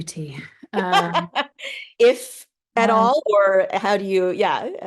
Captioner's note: laughing